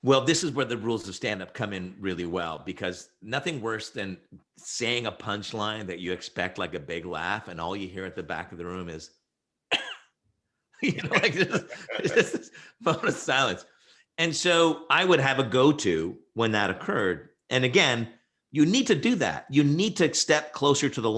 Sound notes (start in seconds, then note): 9.7 coughs; 10.8 laughs